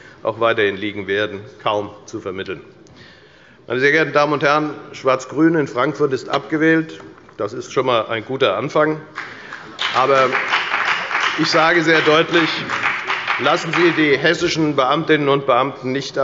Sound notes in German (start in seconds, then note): 9.1 Beifall bei der FDP